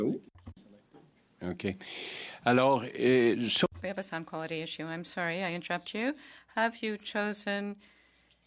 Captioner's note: speaking French